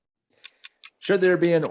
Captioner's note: clock clicking